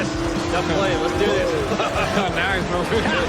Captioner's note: laughter